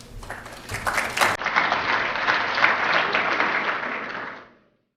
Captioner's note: applause